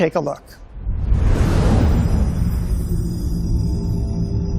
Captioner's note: dramatic sound